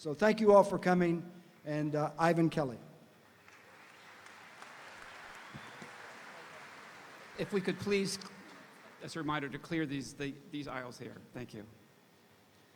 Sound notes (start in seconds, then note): 3.3 audience applauding; 3.4 audience cheering